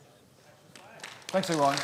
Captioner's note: audience clapping